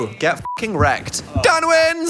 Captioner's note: beep